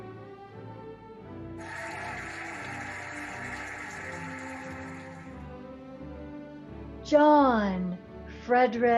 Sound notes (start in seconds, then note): 1.6 cheering and applauding